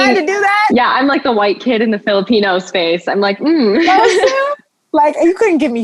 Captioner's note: chuckles